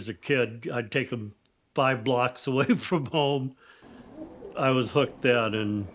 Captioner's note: chuckles